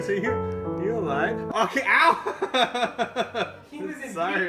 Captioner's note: starts laughing